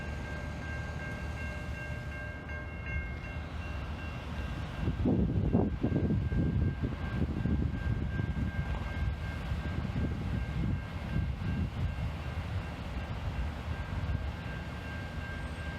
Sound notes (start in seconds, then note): 3.4 loud wind